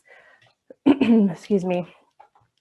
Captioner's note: coughs